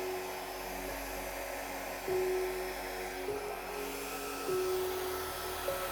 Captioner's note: blow dryer blowing; soft piano music